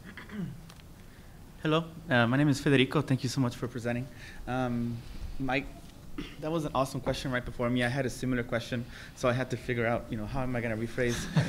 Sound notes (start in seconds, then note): 0.0 clears throat